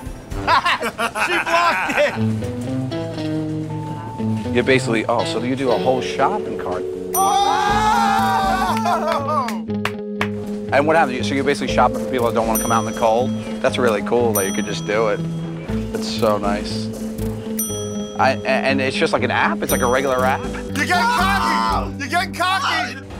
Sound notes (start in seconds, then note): 0.4 laughs; 7.0 all shouting; 7.3 laughing; 17.5 ding!